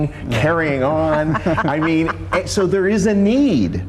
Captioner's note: laughs